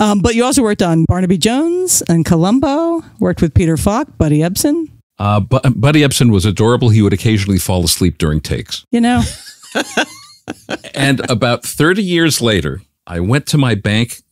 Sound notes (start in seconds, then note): 9.2 laughs